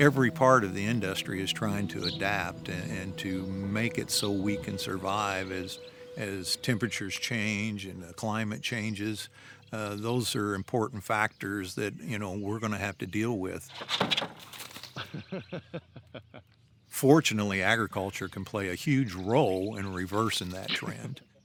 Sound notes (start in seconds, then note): 14.9 laughter